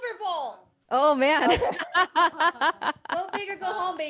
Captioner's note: laughter